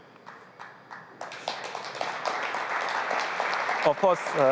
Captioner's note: applause